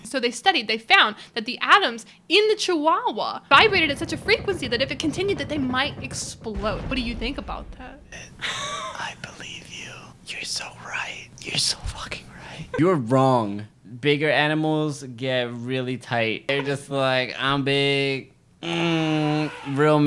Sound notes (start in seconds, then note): 9.0 whispers; 18.6 grunts